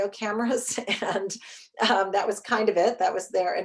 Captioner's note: chuckles